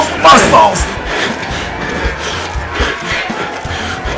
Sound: crowd Glammering; breathing Continues

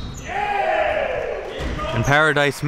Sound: cheering; whistle blows

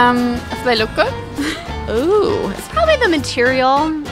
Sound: laughs

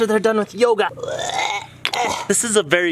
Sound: groans

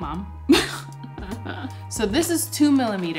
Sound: laughs

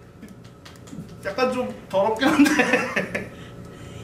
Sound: laughs

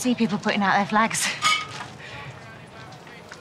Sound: bottles clink

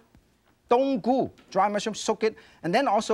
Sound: speaking in foreign language

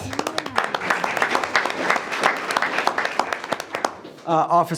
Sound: everyone applauds

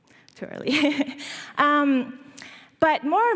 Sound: laughs

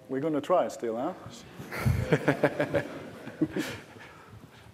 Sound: laughter

